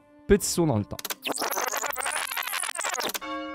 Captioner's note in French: rembobinage; tintement de cloches